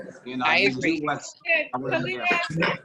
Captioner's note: woman's Voice